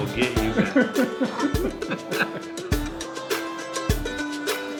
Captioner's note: laughing